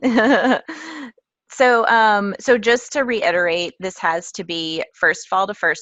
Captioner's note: laugh